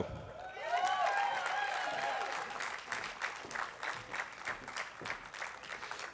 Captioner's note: attendees applauding